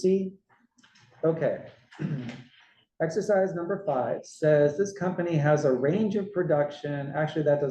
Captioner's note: cough